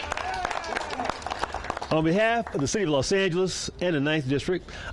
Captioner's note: cheers and applause